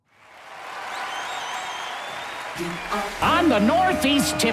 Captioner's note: cheers